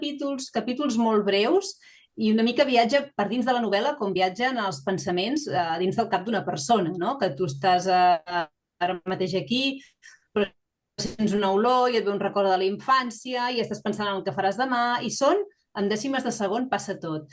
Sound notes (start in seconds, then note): 6.2 continues speaking in Catalan